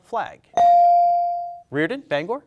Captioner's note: bell dings